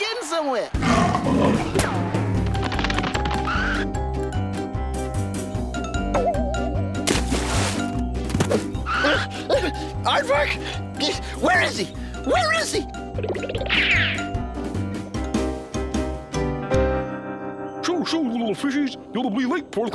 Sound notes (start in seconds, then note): 0.8 snarling; 8.9 panting